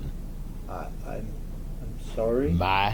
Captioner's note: stammers